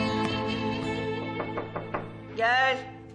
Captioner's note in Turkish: Kapı tıklatılması